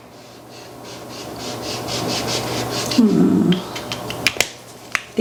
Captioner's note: marker scratching